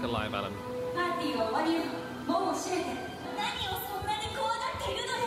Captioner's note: Elsa speaks Japanese